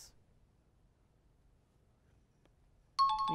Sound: bell ringing

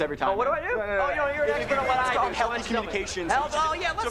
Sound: arguing

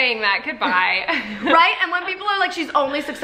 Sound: laughs

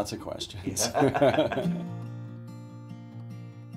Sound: both laugh; instrumental music

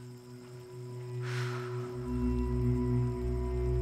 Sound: whispering; exhales deeply; dramatic music

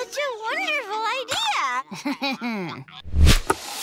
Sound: chuckles

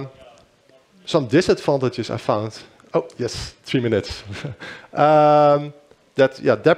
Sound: chuckles

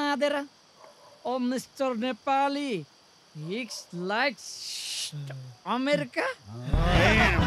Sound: speaks broken English

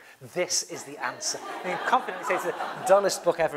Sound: laugh

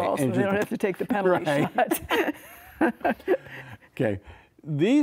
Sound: laughing

